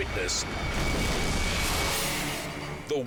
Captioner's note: explosion booms